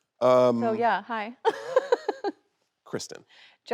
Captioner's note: Kristen laughing